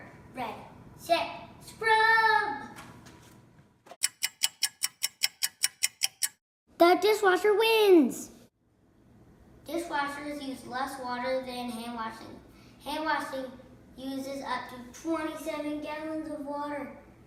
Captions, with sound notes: Ready! Set! Scrub! [clock ticking] The dishwasher wins! Dishwashers use less water than handwashing. Handwashing uses up to 27 gallons of water